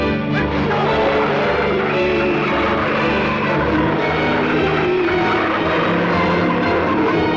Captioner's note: dramatic music; tires skidding